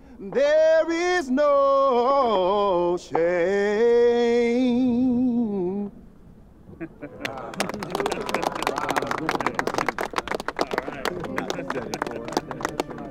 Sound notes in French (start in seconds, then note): 7.2 applaudissements